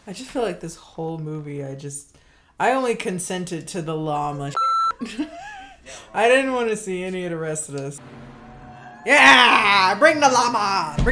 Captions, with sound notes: - I just feel like this whole movie, I only consented to the llama (beep). I didn't wanna see any of the rest of this. (intense music) Yeah, bring the llama!